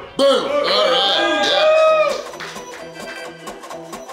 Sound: crowd Cheering

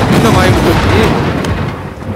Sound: thunder sound

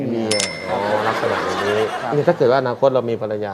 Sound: laughing sound

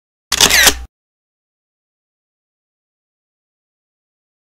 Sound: camera shutters

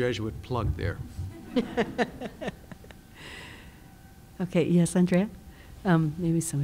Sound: laugh

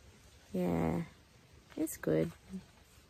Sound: sleepily

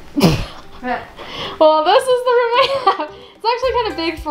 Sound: sneezing; laughs

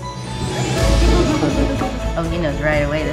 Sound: bells jingling

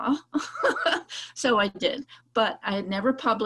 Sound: laughs

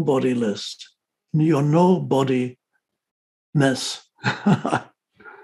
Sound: laughs

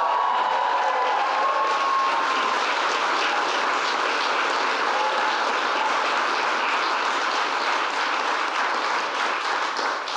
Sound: applause

